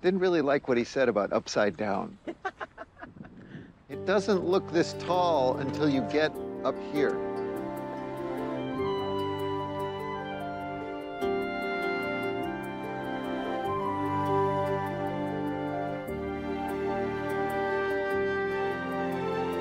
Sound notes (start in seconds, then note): 2.2 laughing; 8.2 bright uplifting music